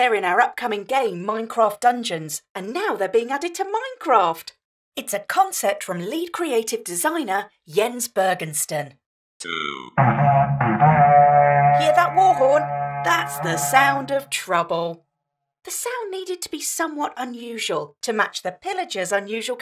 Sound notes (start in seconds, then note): 10.0 raid horn sound